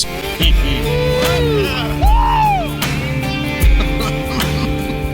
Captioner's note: hunters laugh and cheer